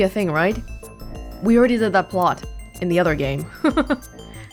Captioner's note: chuckles